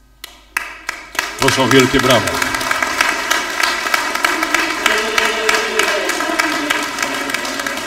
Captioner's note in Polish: oklaski